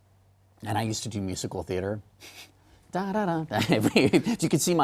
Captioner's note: snicker ... da da da